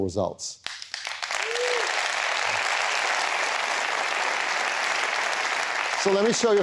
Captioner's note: applause